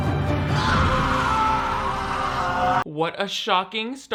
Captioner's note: Riley screams